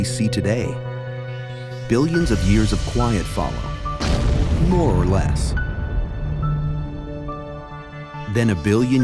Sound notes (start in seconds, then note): 3.1 impact